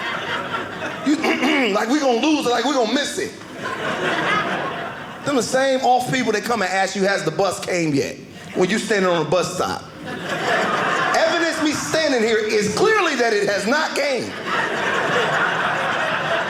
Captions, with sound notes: (clears throat) Like we're going to lose it, like we're going to miss it. (audience laughing) Them the same off people that come and ask you has the bus came yet, when you're standing on the bus stop. (audience laughing) Evidence, me standing here, is clearly that it has not came. (audience laughing)